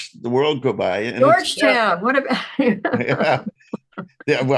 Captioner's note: laughs